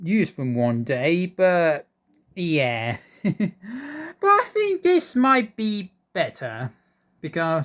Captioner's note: chuckles